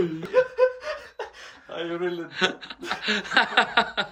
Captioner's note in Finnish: naurua